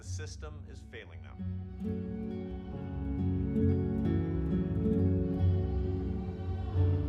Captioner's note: man shouting on PA; dramatic orchestral music